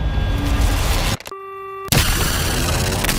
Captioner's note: beeping